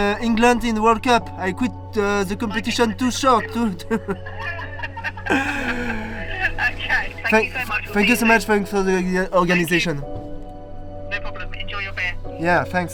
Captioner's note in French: rires